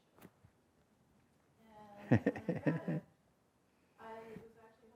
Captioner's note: laughter